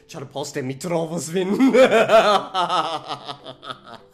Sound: scary laughter

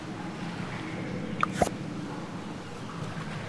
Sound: click sound

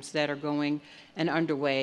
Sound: none

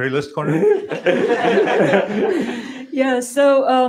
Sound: laughter

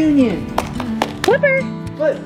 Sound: Rocky claps

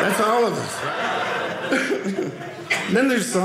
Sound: audience laughing

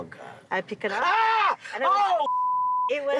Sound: screams

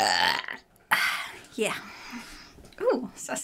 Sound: burps

